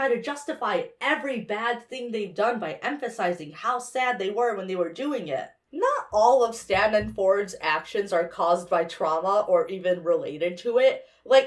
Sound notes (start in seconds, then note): none